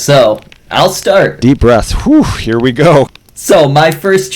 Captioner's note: whew